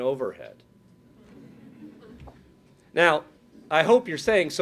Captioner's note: laughing